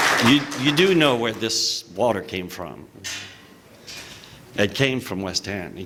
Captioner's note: applause